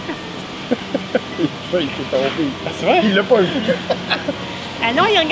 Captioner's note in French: rire